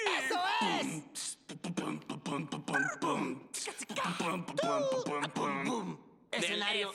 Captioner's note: beat-boxing